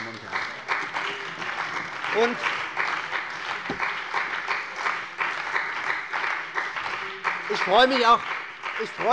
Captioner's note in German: Beifall bei der CDU und dem BÜNDNIS 90/DIE GRÜNEN